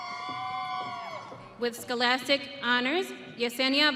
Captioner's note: audience cheering